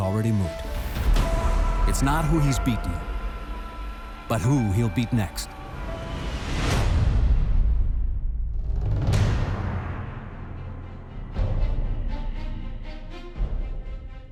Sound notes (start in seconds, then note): none